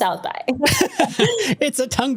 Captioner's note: laughs